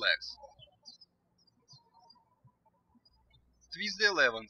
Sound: birds chirping

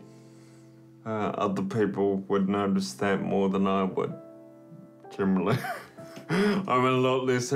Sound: laughs

